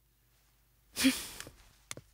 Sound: scoffs

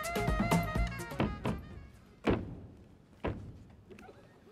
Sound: stomping

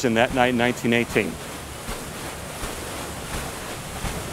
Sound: water churning

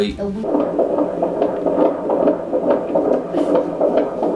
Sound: fetal heartbeat

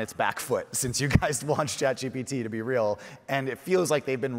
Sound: chuckles

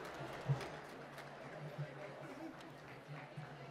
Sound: applause

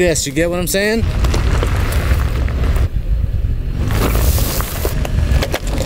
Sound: rocks crunching under tire

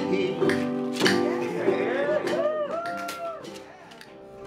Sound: cheers

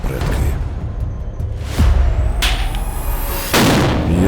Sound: tense music playing; sound of an explosion

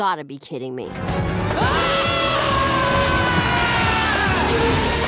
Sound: screaming

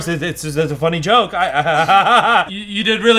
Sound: laughs awkwardly

